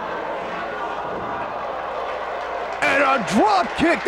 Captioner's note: spectators exclaiming